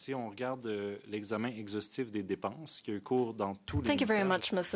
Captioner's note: speaking in French